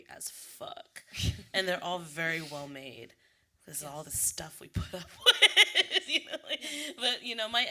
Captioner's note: laughs